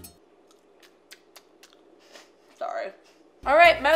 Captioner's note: smacks lips